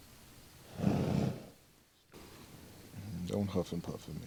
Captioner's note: Star snorts